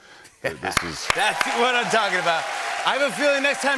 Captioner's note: cheers and applause